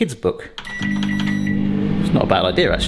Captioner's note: microwave beeps